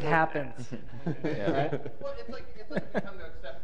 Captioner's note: chuckling